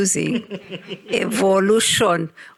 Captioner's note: audience laughing